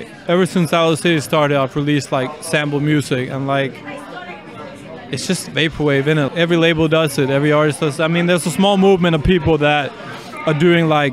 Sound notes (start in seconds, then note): none